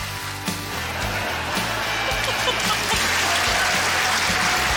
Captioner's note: cheering, applause, laughter